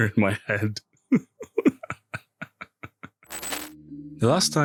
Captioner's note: laughs like an idiot